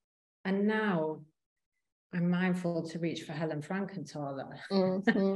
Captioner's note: both chuckling